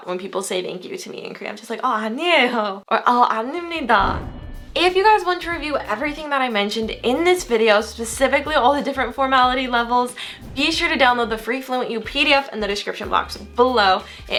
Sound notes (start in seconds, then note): 2.5 foreign language